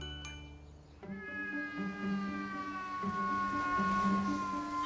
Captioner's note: driver meowing